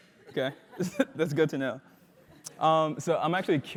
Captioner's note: laugh